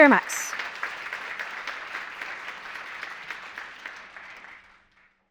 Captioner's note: audience clapping